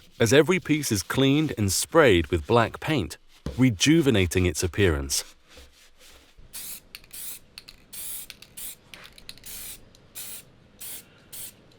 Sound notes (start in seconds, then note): 6.6 spray paint hissing